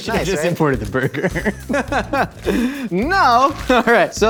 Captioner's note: both laughing